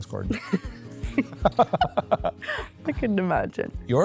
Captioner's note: both laughing